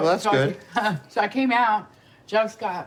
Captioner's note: laughs